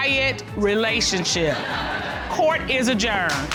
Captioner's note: audience laughing